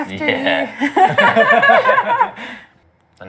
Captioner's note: laughter